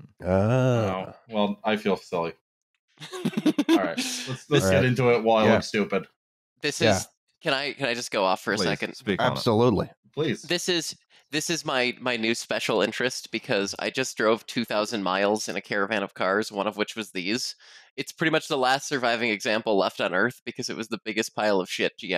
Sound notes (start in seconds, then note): 3.0 laughter